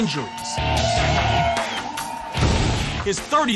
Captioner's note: crowd cheers